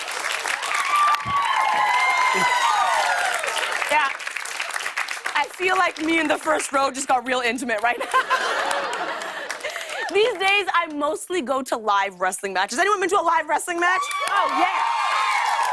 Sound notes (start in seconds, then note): 7.9 laughter; 13.8 cheers and applause